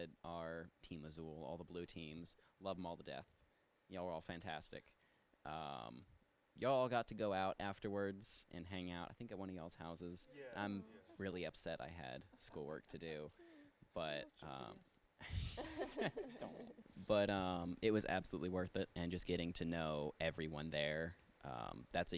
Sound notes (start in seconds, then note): 15.2 participants chuckle; 15.6 speaks faintly